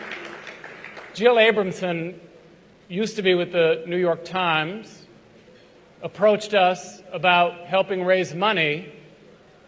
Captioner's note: applause